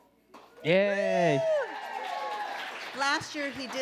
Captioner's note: audience applauding